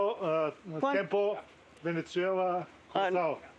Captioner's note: speaking Spanish